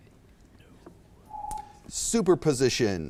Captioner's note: timer beeps